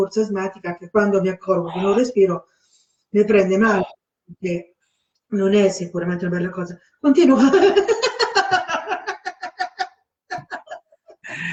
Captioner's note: laughter induced by the yoga of laughter